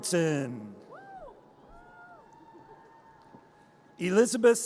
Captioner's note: audience cheers